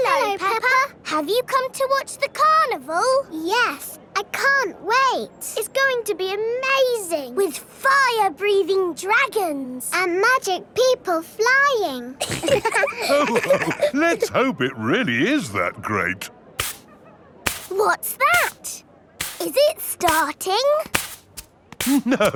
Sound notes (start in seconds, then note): 12.2 all laughing; 16.6 brushing